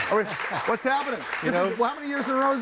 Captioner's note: audience claps